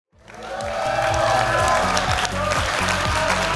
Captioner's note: applause, cheering